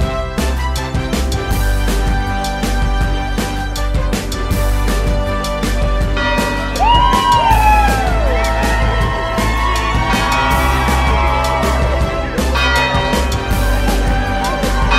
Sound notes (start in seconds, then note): 6.1 bell chimes; 6.8 students cheer; 12.5 bell chimes; 14.8 students singing